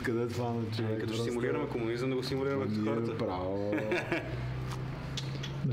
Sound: laughs

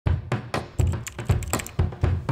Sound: keyboard Typing

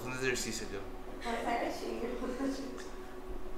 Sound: laughter

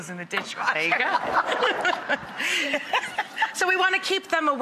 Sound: laughter

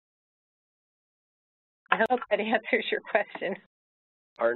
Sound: Barbara laughing slightly

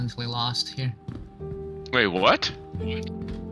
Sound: on the radio

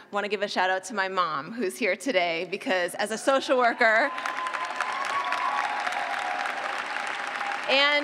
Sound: cheers and clapping

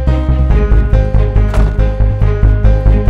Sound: door closes

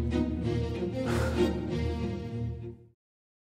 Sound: heavy sigh

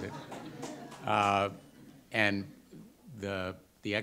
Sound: audience laughter

